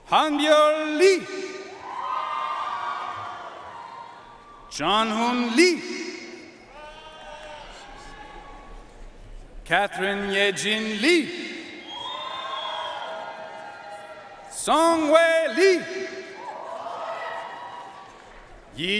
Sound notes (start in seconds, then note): 1.7 audience cheering and applauding; 6.7 audience cheering and applauding; 12.1 audience cheering and applauding; 16.5 audience cheering and applauding